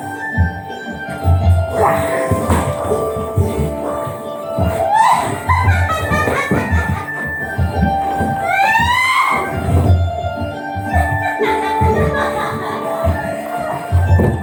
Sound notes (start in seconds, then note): 8.4 screaming; 10.9 The Moirai laugh